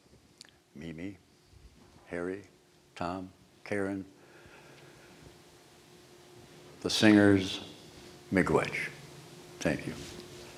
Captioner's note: non-english speech